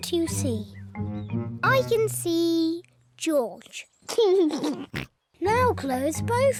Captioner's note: laughs